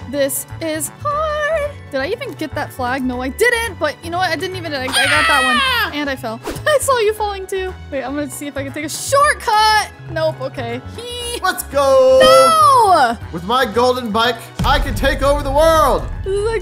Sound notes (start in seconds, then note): 4.9 DJ screaming; 4.9 laughing